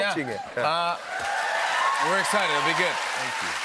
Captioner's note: cheers and applause